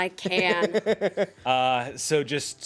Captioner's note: man laughs